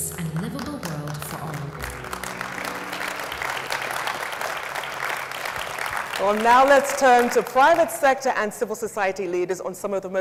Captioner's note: audience applauds